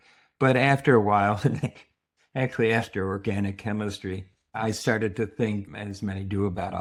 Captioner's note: chuckles